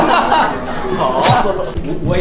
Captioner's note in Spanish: Ríendose de la desgracia